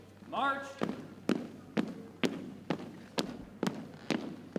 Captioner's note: boots thumping